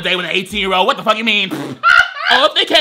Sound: laughs

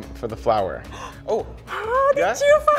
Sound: gasps; laughs

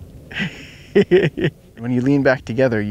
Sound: laughs

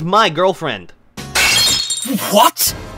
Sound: glass breaking

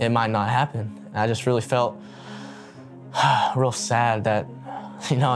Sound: deep breath

